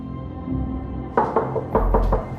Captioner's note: knock on door